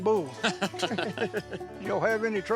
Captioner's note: guys laughing